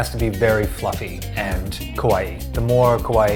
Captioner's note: speaks foreign language